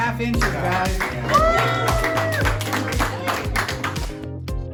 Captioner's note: applause, cheers